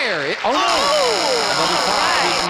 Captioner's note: buzz